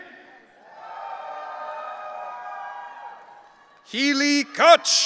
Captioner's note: audience cheering